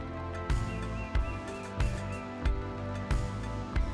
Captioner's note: birds chirping; serene music